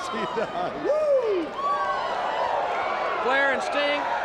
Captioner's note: chuckling; crowd cheering